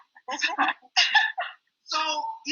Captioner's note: all chuckle